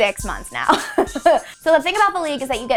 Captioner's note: laughing